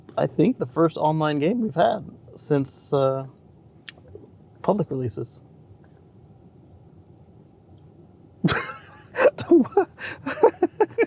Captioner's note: laughter